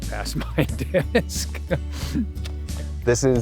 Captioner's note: chuckles